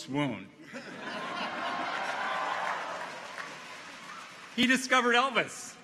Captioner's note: audience laughs; clappers clack